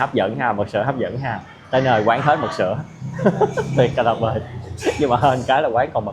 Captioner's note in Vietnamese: tiếng cười